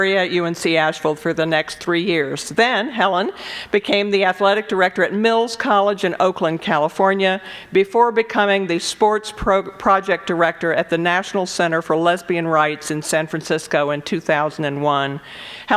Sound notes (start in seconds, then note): none